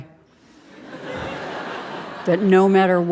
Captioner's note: audience laughing